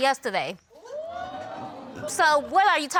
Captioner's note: audience exclaiming